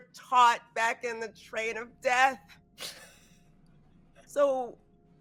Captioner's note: chuckling